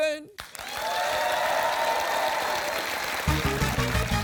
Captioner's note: cheering and applause